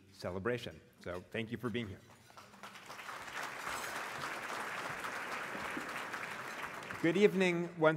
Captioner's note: applause